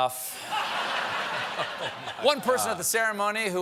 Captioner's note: laughter